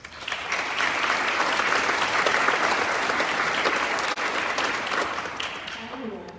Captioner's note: applause